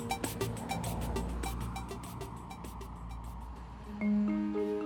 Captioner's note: car speeding; upbeat ambient music